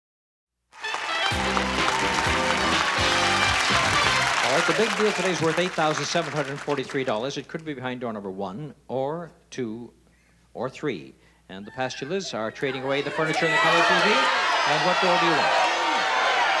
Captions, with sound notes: (applause) (lively pop music) The Big Deal today is worth $8,743. It could be behind Door Number One, or Two, or Three. The Pastulas are trading away the furniture and color t.v. And what door do you want?